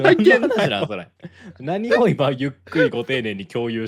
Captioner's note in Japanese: 笑い